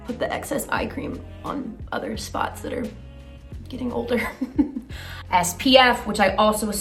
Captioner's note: laughs